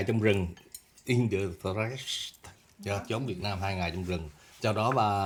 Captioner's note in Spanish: En ingles